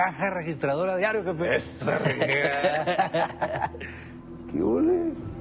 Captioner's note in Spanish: Risas